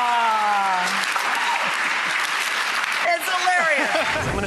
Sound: audience clapping; laughs

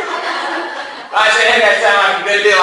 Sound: class laughs

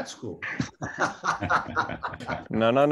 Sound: laughter

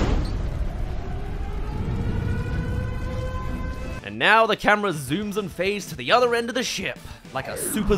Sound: sonic reveal

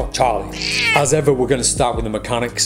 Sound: cat meows

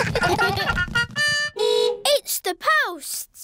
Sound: giggling; horn beeps

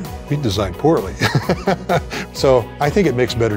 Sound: laughing

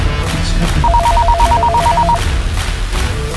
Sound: phone Ringing

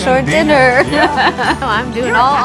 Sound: laughs

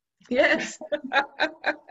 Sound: laughs

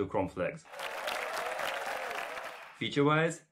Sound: applause

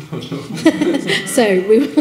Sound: person laughing

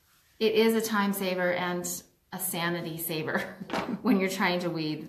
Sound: laughs

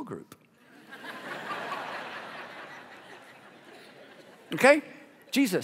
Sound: congregation laughing

